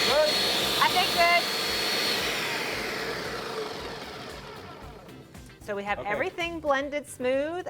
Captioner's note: blender winding down